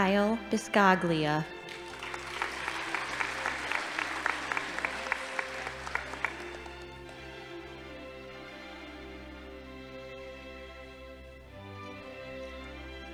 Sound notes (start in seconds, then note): 1.6 audience applauding